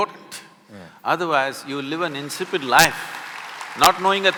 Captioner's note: applause